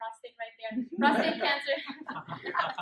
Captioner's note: laughter